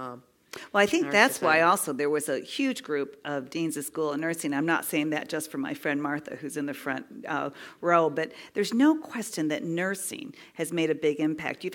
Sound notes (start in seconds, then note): none